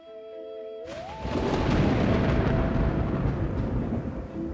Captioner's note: thunder rumbles